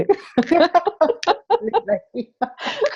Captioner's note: laughs